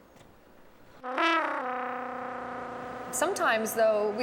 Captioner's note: sound of horn